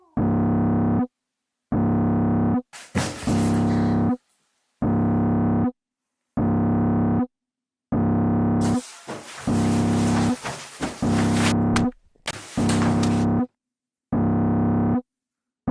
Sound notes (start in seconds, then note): 2.8 alarm sounding; 11.4 alarm sounding